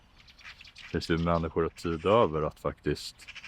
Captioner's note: A bird chirps